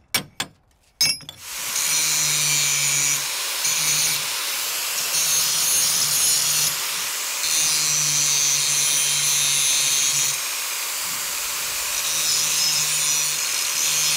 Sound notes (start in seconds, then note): 2.4 grinder whining